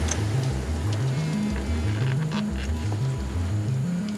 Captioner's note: cell phone buzzes